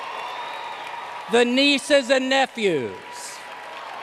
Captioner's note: applause